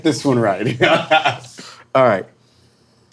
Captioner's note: laughing